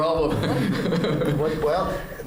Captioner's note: laughter